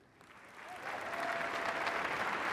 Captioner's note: applause